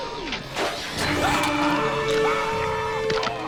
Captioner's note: scream